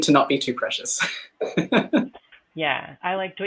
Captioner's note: laughing